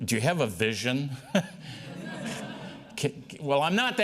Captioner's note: laughter